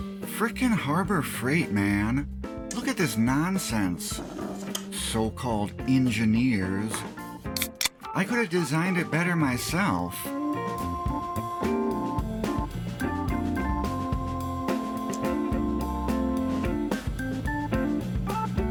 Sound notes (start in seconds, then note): 7.5 beer opening